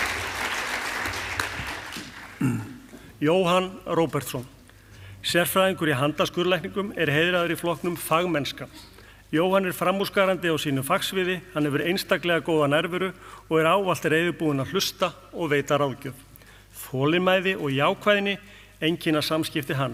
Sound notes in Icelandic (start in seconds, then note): 1.1 fagnaðarlæti; 2.3 ræskir sig